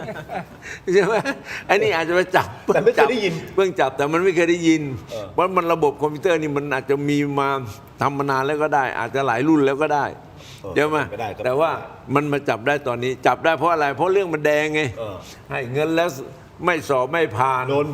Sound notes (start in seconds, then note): 0.0 laughs; 4.1 clears throat